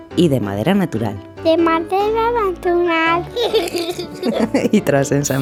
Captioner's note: laugh